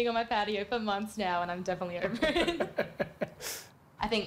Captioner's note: laughs